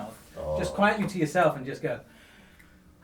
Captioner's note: sighs